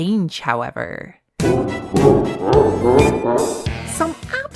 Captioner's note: Bowser laugh